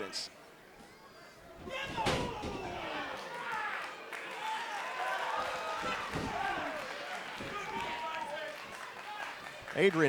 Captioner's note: crowd cheering